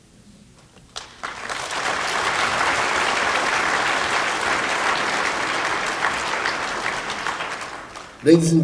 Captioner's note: applause